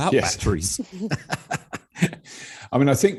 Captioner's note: robert laughing